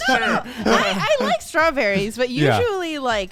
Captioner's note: men laugh